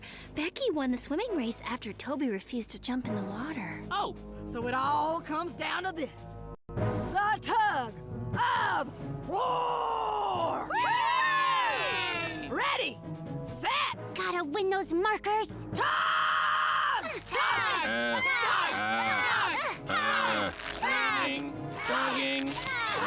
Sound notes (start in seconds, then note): 10.7 cheering